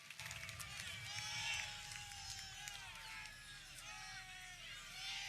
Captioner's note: audience cheering